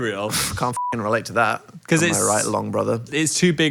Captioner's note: beeps